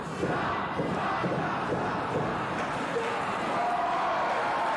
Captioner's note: fans chanting